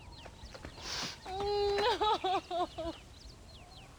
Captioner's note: sobbing